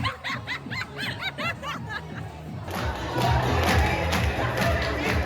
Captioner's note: laughs